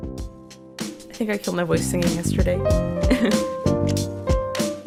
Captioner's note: laughs sadly